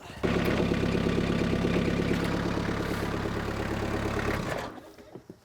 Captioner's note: skid steer engine roaring